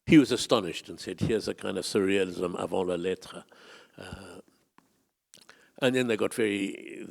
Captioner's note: speak in foreign language